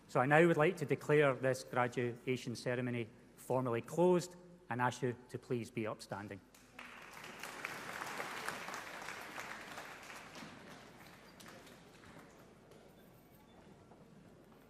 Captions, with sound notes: So, I now would like to declare this graduation ceremony formally closed and ask you to please be upstanding. (AUDIENCE APPLAUDING)